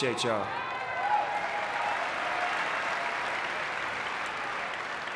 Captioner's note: audience clapping